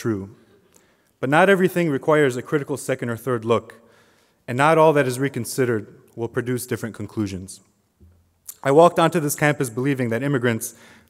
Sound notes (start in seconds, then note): none